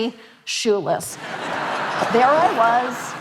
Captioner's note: audience laughing